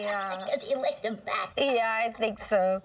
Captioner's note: chuckling